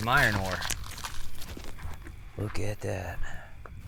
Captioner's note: footsteps crunching